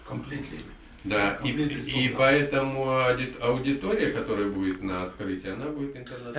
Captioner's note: speaks in the Russian language